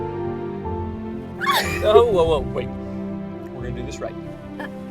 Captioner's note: squeals